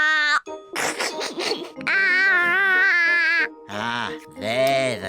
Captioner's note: giggles